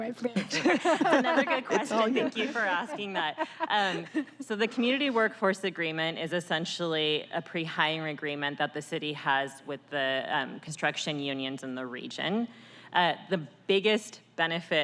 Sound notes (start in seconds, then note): 4.8 laughter